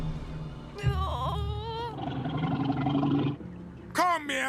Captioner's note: whimpers; growls